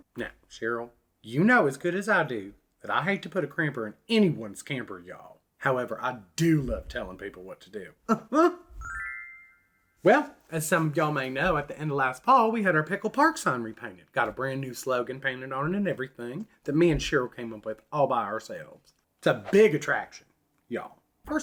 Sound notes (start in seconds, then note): 8.1 chuckles